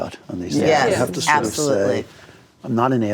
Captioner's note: other guests agreeing